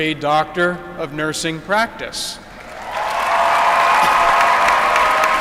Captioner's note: applause